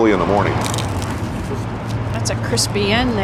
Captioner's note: crunchy crusty bread cracking